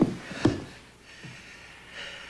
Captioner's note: panting